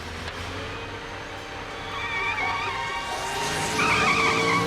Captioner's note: tires squealing